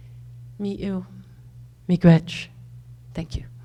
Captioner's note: speaks foreign language